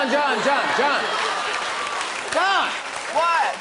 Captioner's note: laughter and applause